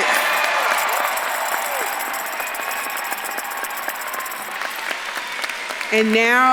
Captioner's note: bells jingling; audience claps and cheers